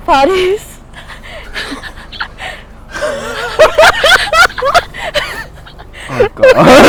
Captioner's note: laughing